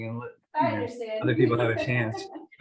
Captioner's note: laughter